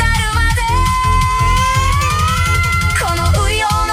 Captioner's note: waaaaah!